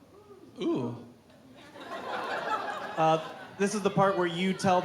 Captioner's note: crowd laughing